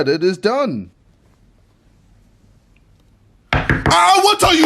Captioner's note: door knocking